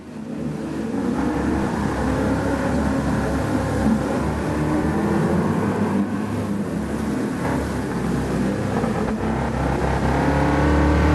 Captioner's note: engines revving, cars noises, rain